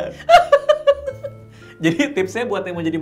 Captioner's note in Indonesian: ketawa